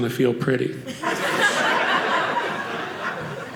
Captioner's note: audience laughing